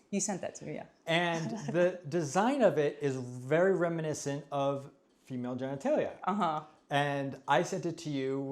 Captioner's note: giggles